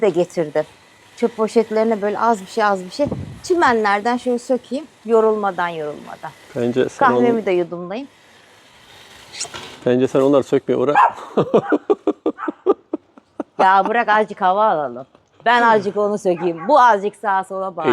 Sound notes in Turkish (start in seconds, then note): 11.2 kahkaha